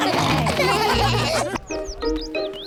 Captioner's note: snorting; laughter